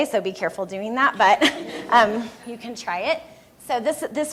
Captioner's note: laughter from room